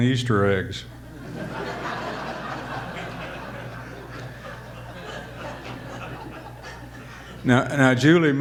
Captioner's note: audience laughter